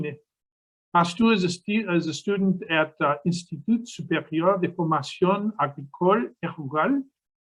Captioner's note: speaking in foreign language